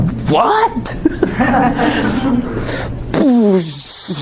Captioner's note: chuckling